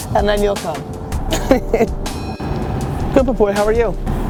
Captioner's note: laughter